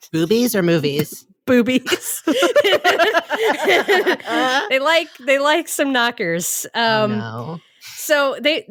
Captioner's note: laughs